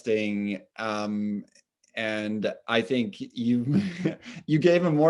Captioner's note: chuckles